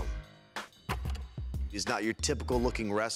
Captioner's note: film reel clicks